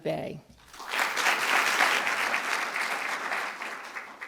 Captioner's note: applause